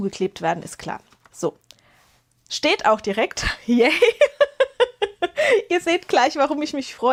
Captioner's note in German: gelächter